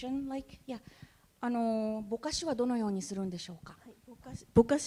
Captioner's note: speaking japanese